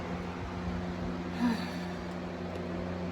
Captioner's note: Caprice sighs